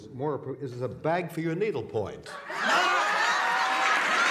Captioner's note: laughter; applause